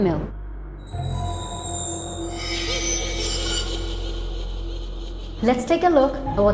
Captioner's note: atmospheric music; disembodied giggling